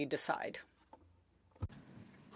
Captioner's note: speaking french